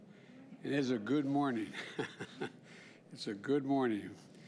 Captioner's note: laughs